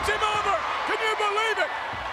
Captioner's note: audience cheers